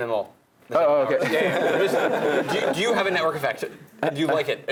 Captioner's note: laugh